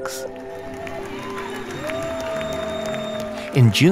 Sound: audience applauding; audience cheering

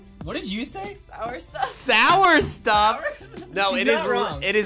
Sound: chuckles

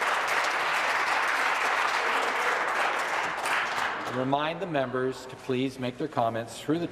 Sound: some Applause

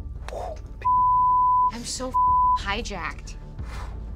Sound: beep; beeping

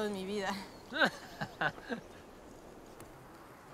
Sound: laughs

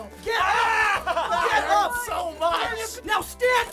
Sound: pained screaming

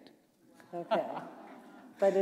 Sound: laughter

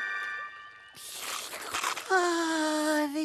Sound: sigh; slurp

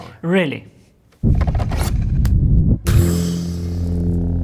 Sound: low rumbling eminates from using Force powers

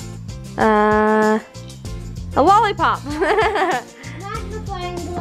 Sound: laughs

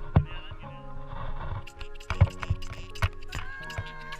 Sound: bird cawing

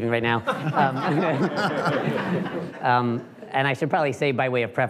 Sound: laughing

